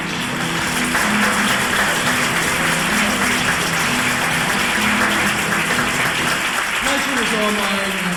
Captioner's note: applause